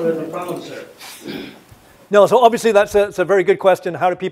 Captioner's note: cough